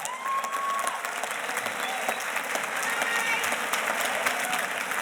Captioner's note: audience cheers and applauds